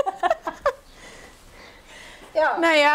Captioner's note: they laugh